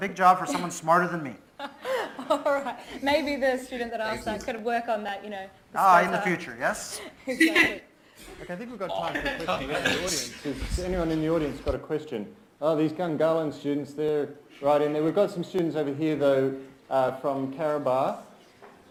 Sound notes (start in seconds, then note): 1.6 presenter and audience laughs